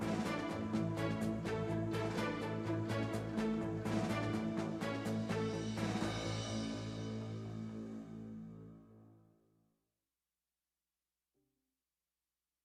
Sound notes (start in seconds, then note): none